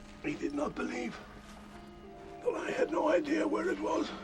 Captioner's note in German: none